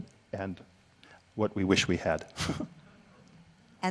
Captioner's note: chuckles